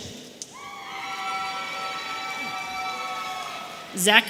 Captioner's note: audience cheering